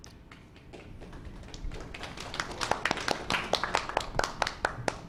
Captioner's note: applause